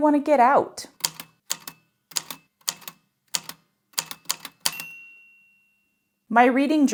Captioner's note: A typewriter clicks away, then dings